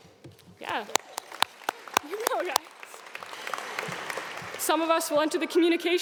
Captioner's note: audience clapping